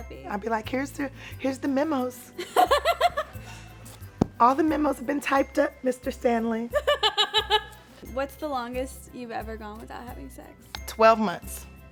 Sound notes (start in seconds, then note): 2.4 Esther laughs; 6.7 Esther laughs